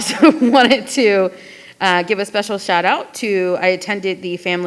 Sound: laughing

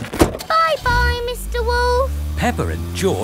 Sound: engine starts

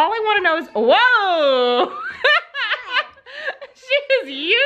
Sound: laughs loudly

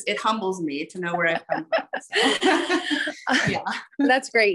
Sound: both laugh

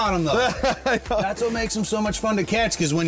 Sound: laughs

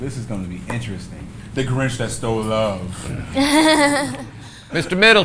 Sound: awkward laughing

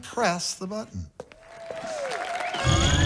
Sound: applause; beeping

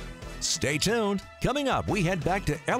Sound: voiceover

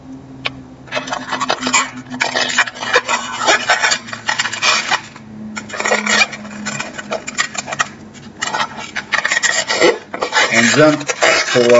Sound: balloon squeaking

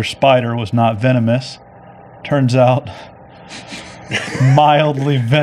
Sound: laughs

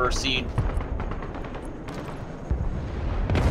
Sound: machine gun firing; bombs exploding hitting the building

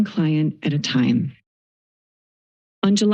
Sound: silence

